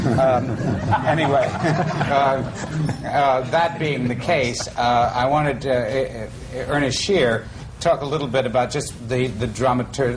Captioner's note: laughter